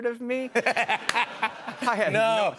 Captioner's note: laughter